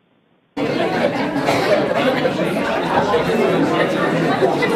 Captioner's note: overlapping muttering